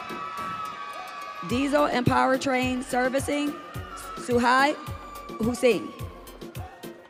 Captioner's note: audience cheering